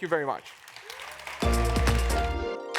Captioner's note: applause